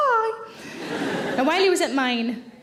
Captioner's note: audience laughing